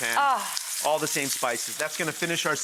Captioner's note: moans